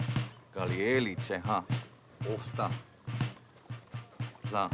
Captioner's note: speaking Cherokee